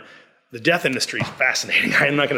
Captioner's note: laughs